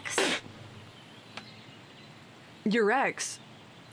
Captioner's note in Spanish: Debra escupe